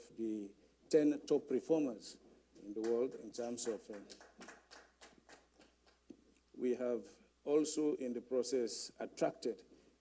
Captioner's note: applause